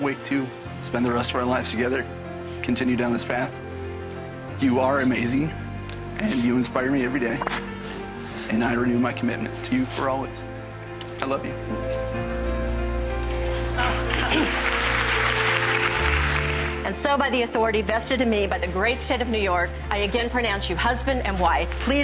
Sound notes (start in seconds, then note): 13.4 audience applause